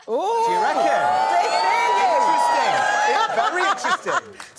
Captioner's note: audience oohs